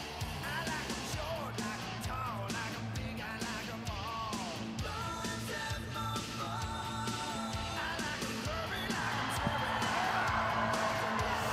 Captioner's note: crowd cheering